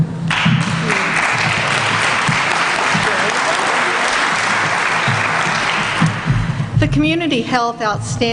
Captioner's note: applause